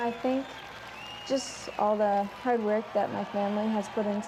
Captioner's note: cheers and Applause